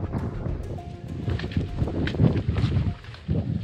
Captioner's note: wind rustling